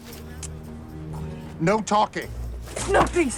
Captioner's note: whispers